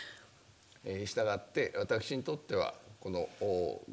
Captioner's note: speaking japanese